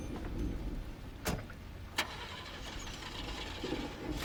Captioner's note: car engine starts